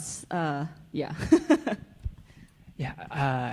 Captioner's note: chuckles